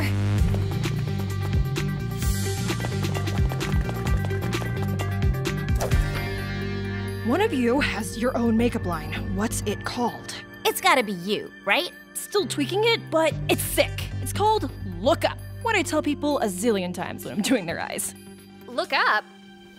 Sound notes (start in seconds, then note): 0.3 upbeat music; 2.5 foot steps pattering